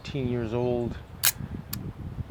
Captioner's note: camera snapshot clicking